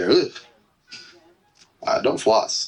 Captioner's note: heart monitor